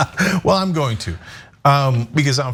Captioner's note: laugh